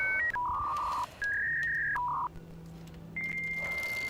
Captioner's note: dial up internet noise